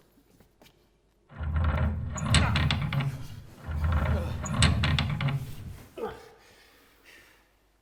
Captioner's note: grinding noise of the heavy coffin lid being turned; men grunting with the exertion